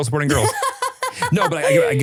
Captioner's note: laughs